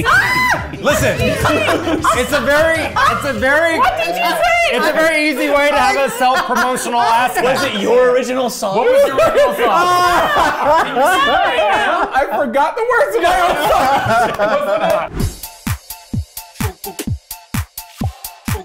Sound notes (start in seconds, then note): 13.1 everyone laughing; 15.7 upbeat pop music